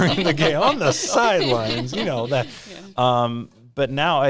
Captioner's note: laughing